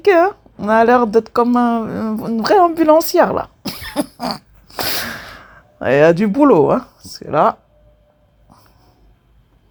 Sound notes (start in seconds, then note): 3.7 laughter